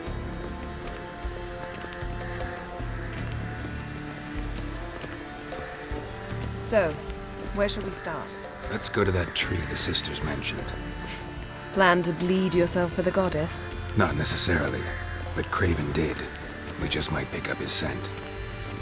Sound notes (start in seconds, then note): 11.3 chuckle